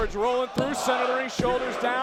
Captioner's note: hands thudding